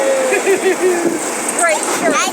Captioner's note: laughs